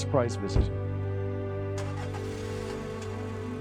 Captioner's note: car door thudding; engine rumbling